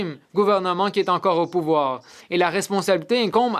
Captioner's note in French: voix de l'interprète